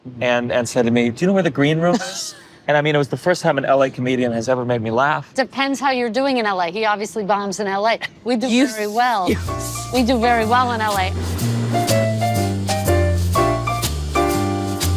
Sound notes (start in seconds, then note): 8.0 laughing; 11.5 jazzy music